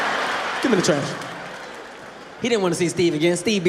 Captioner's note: audience laughing